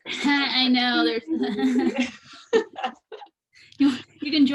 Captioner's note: laughing